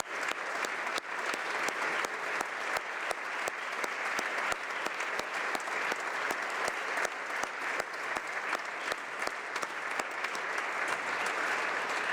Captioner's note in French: applaudissements